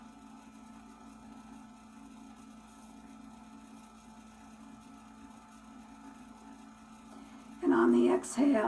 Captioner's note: moment of Silence